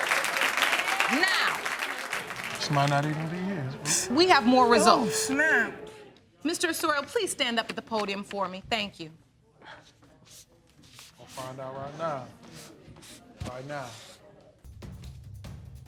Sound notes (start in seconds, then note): 3.0 snickering